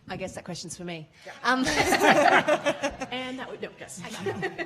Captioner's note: laughing